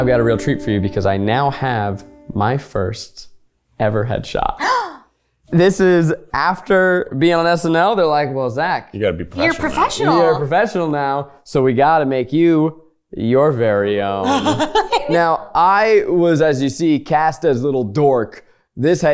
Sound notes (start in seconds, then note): 4.6 gasps; 14.2 laughs